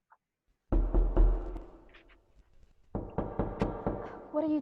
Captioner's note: tapping on stone